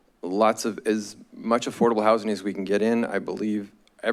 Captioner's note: none